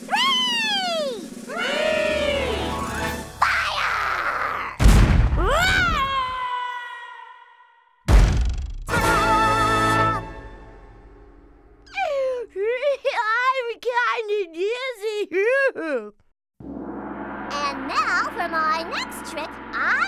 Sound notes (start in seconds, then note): 4.8 cannon firing; 5.4 Chuckie screaming; 8.1 Chuckie thudding; 13.3 gasps; 16.1 laughs